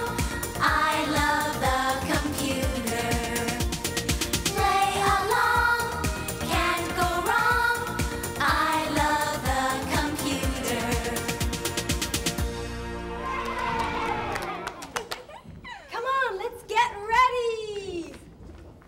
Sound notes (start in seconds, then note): 13.1 everyone cheers